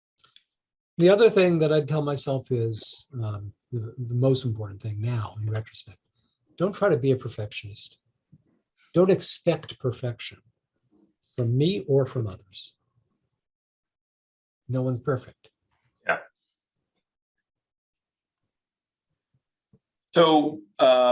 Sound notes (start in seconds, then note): none